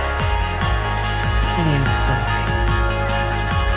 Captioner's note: voiceover